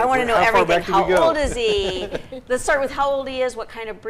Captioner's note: laughs